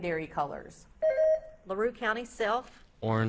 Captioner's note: beep buzzing